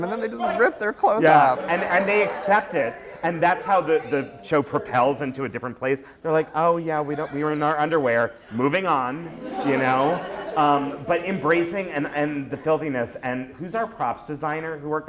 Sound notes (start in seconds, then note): 9.3 laughter